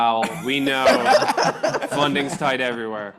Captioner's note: panelists laughing